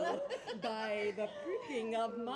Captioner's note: laughs